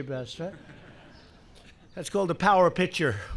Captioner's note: laughter